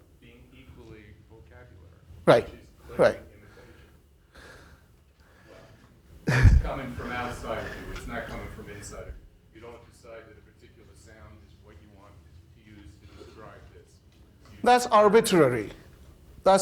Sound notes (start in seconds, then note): 4.5 laughing